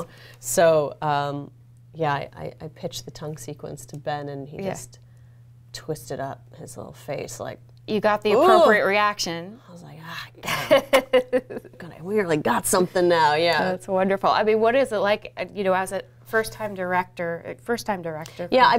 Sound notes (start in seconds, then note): 10.5 laughs